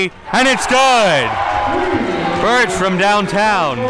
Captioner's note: crowd cheers